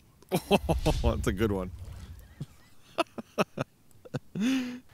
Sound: laughs

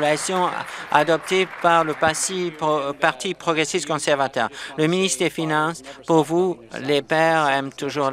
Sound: applause

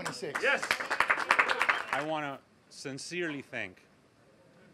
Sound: applause

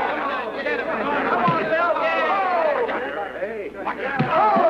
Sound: cheering

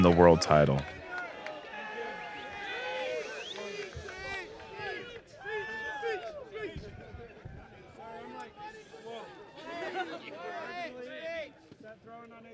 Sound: crowd cheering

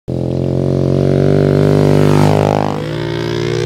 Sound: engine roaring

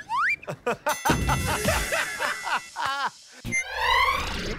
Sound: slide whistle plays; ding!

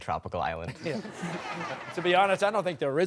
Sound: laughter

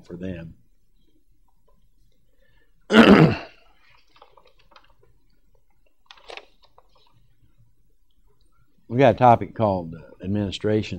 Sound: clears throat

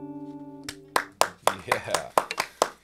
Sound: cheers

